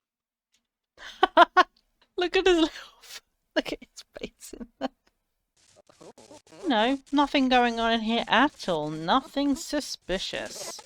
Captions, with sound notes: [Laughs] Look at his little- look at his face in there! You know, nothing going on in here at all! Nothing suspicious.